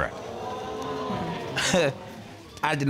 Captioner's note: audience exclaims; chuckles